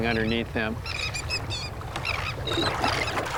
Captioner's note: birds cry